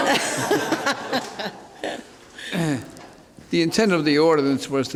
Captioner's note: laughing